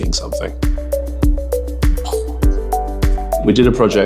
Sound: poof

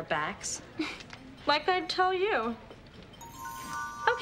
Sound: chuckling

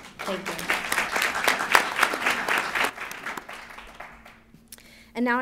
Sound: applause

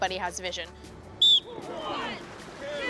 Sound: whistle

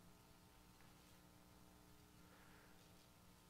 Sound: sniffles

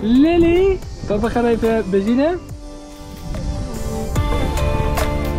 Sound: speaking foreign language; soft upbeat music; wind blowing

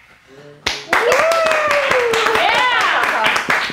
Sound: class cheering

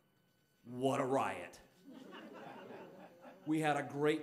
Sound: audience laughing

